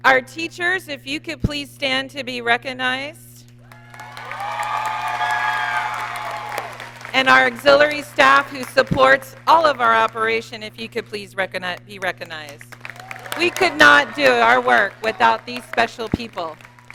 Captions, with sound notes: Our teachers, if you could please stand to be recognized. (audience cheering) And our auxiliary staff who supports all of our operation, if you could please be recognized. We could not do our work without these special people.